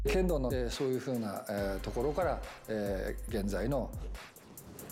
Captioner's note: speaking Japanese